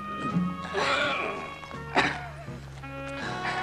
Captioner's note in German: stöhnen